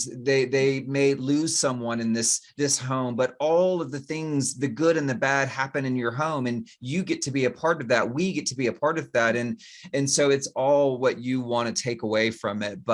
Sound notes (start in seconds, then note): none